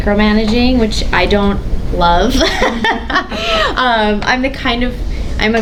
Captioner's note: laughs